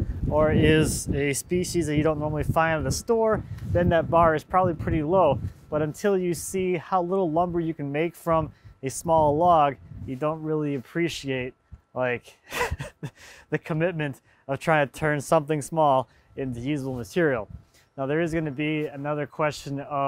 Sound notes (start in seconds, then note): 12.4 laughs